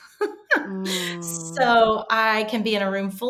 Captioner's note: laughing